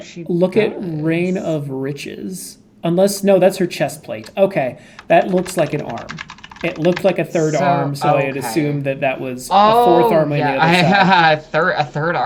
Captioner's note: laughing